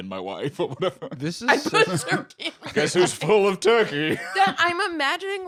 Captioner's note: laughs